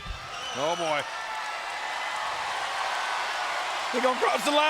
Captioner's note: applause